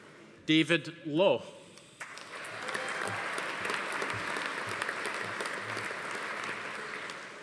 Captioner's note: audience applauding; attendees cheering